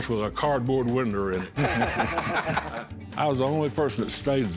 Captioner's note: laughter